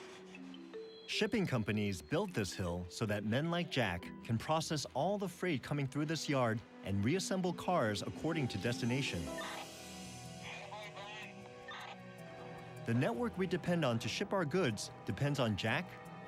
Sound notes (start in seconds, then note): 10.4 radio chatter